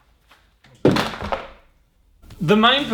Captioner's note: clattering